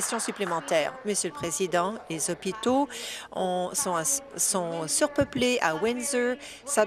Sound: applause

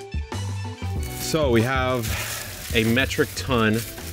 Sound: funky music continues; onions rustle

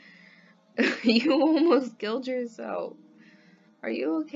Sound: laughs

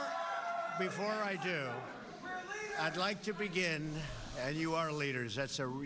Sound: cheers

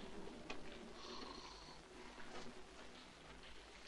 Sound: snoring

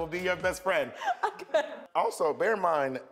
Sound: laughs

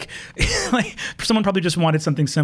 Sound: gasps

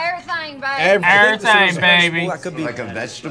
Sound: laughs

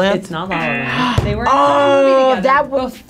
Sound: buzzer razzing

